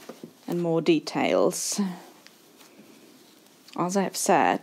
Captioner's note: fabric rustling